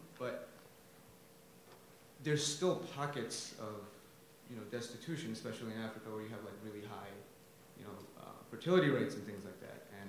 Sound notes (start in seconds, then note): none